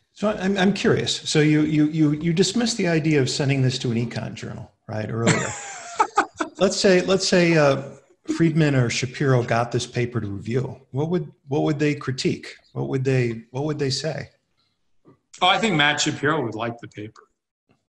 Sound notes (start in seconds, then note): 5.0 laughs